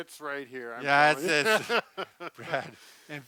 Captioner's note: laughing